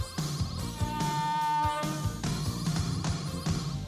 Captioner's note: horn honks